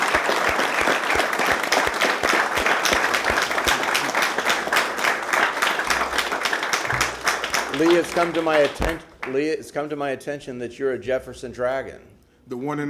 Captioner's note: applause